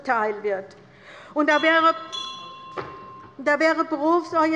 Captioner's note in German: Anhaltende Unruhe - Glockenzeichen der Präsidentin